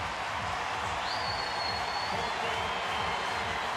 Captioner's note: cheering